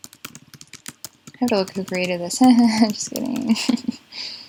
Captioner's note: laugh